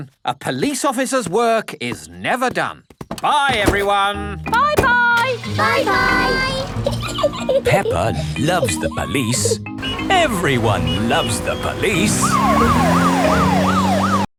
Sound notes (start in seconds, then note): 5.2 engine starts; 6.8 peppa giggling; 12.8 siren wailing